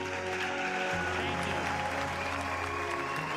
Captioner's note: audience cheering; in big bird's voice